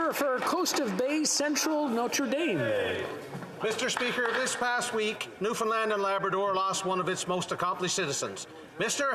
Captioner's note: applause